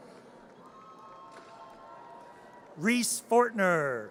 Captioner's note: audience cheers